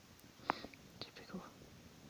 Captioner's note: gasp